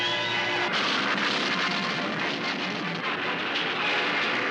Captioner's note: crash